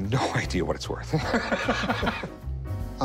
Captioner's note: laughter